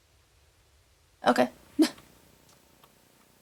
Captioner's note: laughs